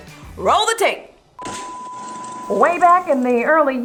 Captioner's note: static whirring